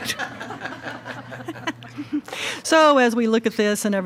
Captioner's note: attendees laughs